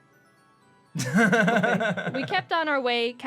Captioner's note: laughs